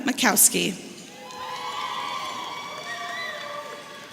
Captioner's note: audience cheering